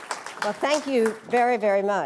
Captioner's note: applause